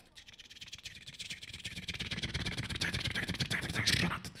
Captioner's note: beatboxing